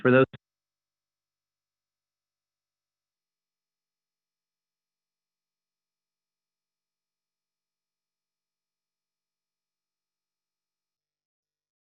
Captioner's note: audio is interrupted